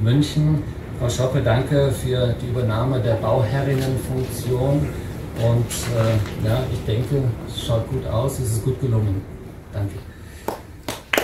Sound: applause

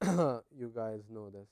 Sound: cough

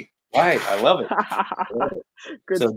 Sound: laughing

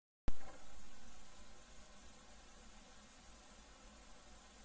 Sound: camera noises

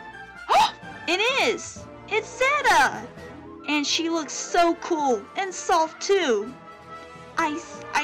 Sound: gasps

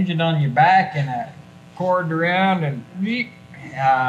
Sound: squeaks

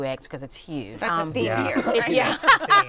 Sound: laughter

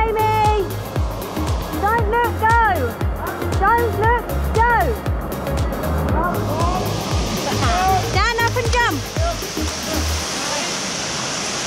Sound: shouting

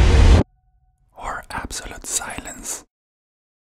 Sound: whispering

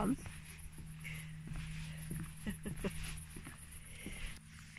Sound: laughter & footsteps

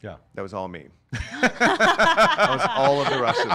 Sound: laughing

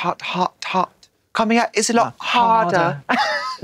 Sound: British accent

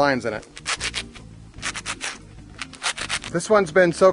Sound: scratching

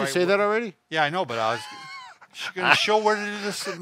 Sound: laughs

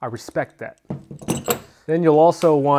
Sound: metal clanks

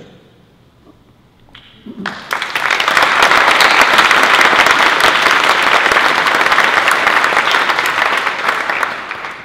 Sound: applause

